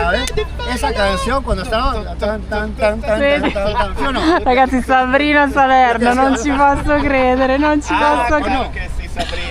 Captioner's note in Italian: risate